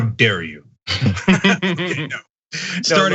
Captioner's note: laugh